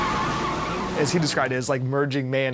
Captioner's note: tires screech